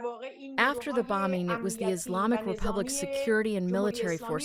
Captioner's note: through translator